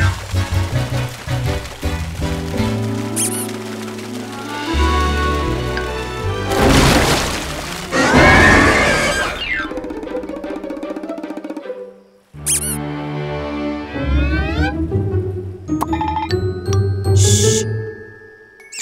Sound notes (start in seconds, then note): 3.0 romantic music playing; 7.1 ominous music playing; 7.1 water crashing; 7.9 screaming; 8.4 dramatic music playing; 14.4 tense music playing